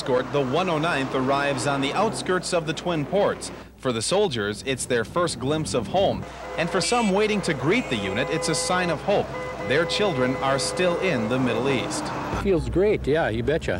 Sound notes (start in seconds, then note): 1.1 sirens